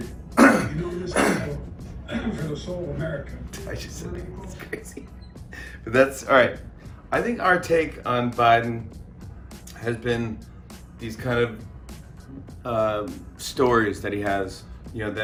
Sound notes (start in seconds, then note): 0.3 coughing; 1.0 coughs; 4.3 laughing